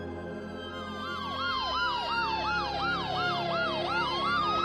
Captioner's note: ambulance siren sound